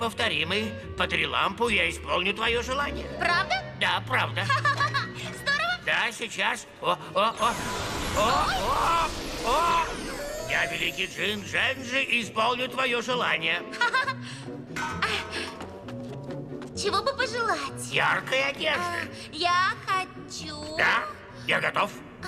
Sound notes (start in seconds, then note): 4.5 laughs; 13.0 giggles